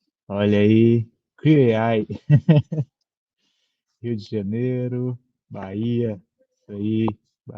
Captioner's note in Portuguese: risada